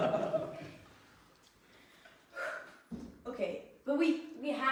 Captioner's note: takes a breath